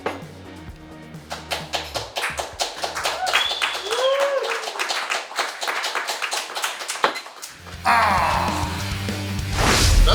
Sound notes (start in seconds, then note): 1.2 applause & Cheering